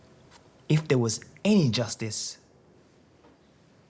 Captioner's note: none